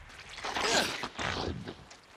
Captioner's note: grunting